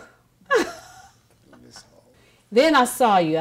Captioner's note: laughs